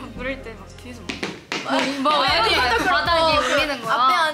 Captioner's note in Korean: 어디선가 들려오는 다급한 발자국 소리